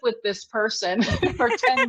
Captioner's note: laughs